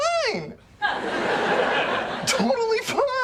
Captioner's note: laughter